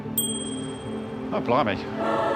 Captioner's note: dings